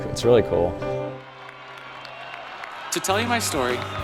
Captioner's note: cheering